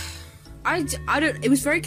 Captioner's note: stumbles on his words